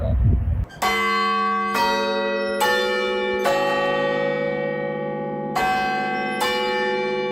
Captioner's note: clock plays "westminster quarters," then tolls 12 times